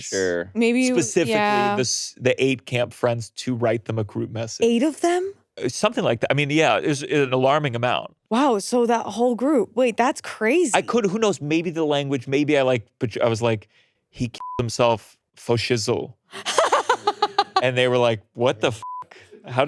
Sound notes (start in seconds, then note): 14.4 beeps; 16.3 laughing; 19.1 beeps